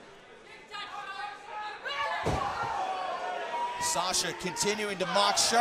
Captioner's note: crowd chatter